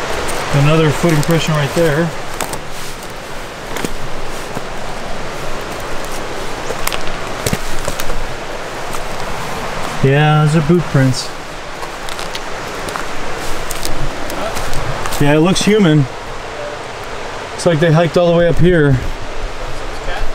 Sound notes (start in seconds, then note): 1.5 sticks crunching; 2.9 water rushing; 11.7 sticks crunching; 12.5 water rushing; 20.1 water flowing